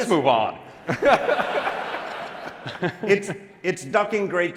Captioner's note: laughter